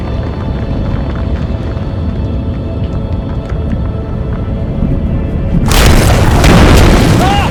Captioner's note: burst